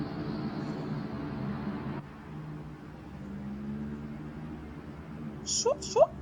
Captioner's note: noisy city